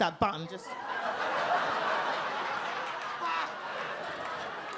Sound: audience laugh

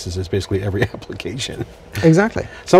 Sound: laughs

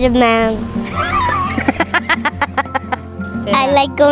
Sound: laughs

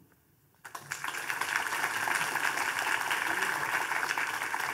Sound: audience applauding

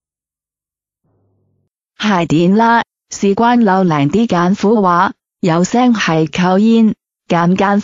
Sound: ภาษา กวางตุ้ง

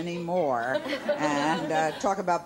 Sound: giggles

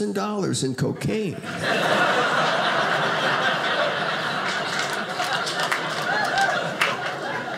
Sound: audience laughing

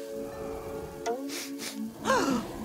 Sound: sniffing

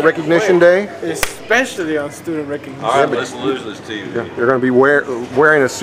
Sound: commotion

